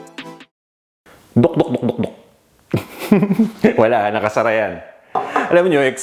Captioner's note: gulp